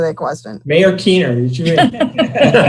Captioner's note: participants laugh; murmur